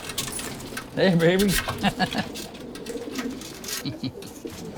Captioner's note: pigeons cooing; chuckles